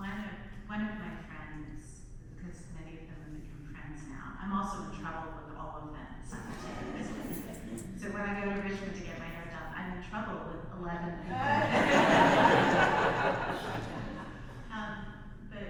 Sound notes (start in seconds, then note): 6.4 audience laughs; 11.2 audience laughs